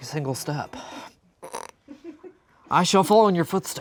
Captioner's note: stifling laughter